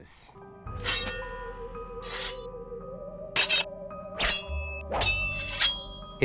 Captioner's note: eerie music; knife slicing